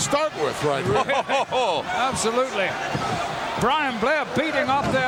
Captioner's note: chuckles